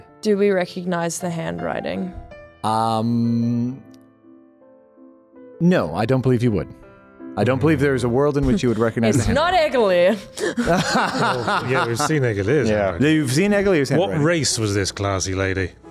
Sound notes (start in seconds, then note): 10.4 laughs